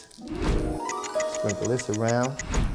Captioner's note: clock ticks